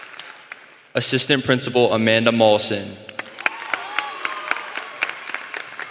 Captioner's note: applause